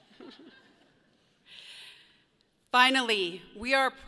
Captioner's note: people chuckle